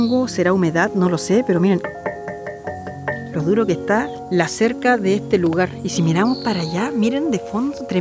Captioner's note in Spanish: Sonido metálico